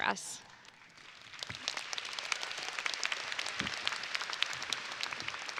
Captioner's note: audience applauding